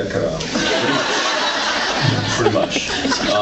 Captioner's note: laughs